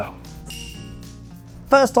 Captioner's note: bell rings